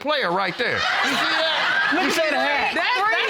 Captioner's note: audience laughing